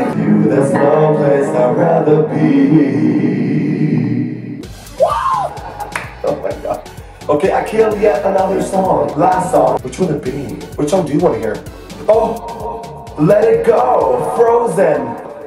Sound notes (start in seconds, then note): 5.2 nervous laughter